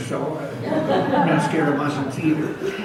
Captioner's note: audience laughs